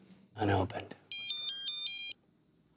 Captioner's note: dan's cell phone rings